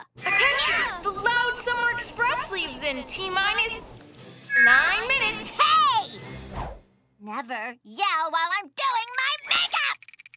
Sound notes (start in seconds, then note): none